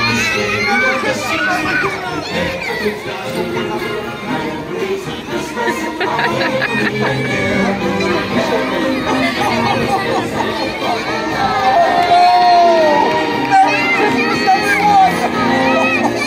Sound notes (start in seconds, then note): 5.3 laughing